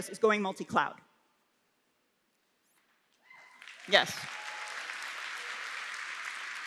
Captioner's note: applause